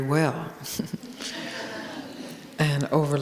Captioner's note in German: Gelächter